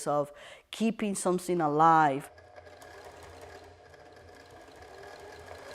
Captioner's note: whirring